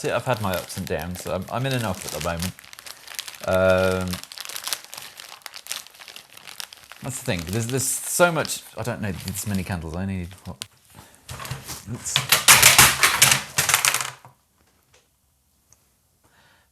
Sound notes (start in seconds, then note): 4.7 plastic bag cracking; 12.1 picture frames drop